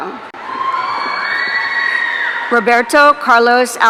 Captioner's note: audience cheering